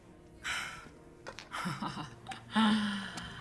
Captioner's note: laughs